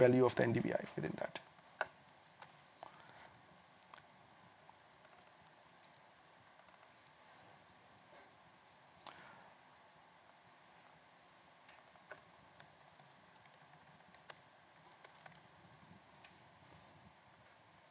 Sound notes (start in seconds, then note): 14.0 typing